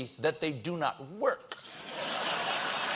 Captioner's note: laughter; applause